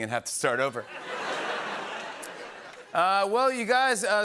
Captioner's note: laughter and applause